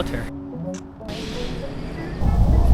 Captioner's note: camera clicks